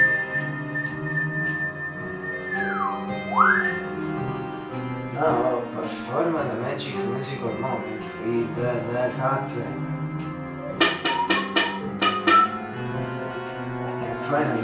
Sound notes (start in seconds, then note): 0.0 whistle; 11.0 whistle